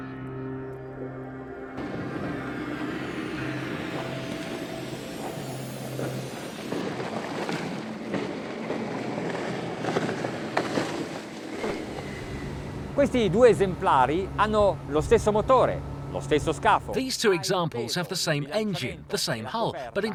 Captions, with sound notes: (speaking in a foreign language) These two examples have the same engine, the same hull.